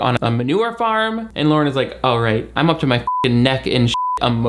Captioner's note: beep